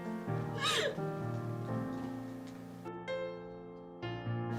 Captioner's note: Nellie sobs